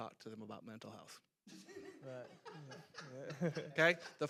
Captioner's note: panelists laughing